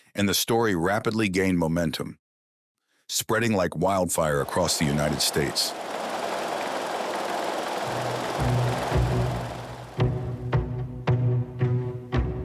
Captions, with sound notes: and the story rapidly gained momentum, spreading like wildfire across the United States. (printing press whirring) (suspenseful music)